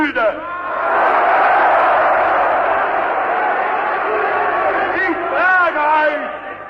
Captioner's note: screams: "No, Never!"